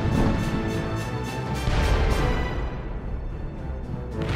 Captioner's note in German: Kanonenschüsse; Explosionen